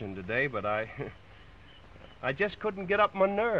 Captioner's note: chuckles